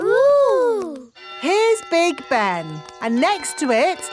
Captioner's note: clock chimes